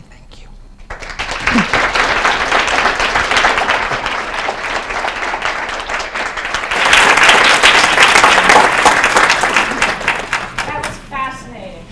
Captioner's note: applause